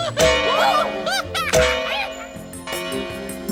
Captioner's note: ringing